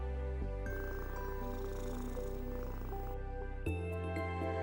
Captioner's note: cat purring